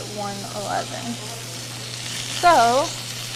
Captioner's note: food sizzling